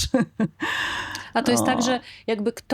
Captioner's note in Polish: śmiech; wciągnięcie powietrza